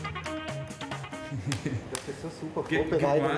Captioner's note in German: Lachen